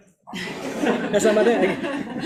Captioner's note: audience laughs